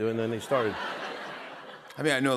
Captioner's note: laughter